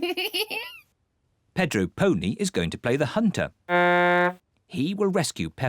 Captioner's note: giggles; blows horn